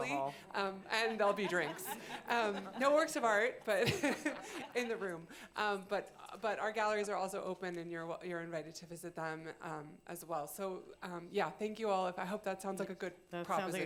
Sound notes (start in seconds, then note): 3.7 laughter